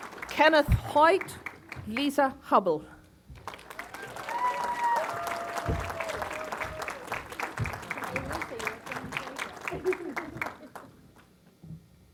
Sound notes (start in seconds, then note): 3.3 applause